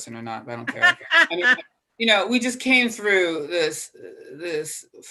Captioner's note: laugh